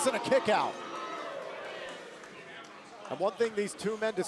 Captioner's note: crowd cheering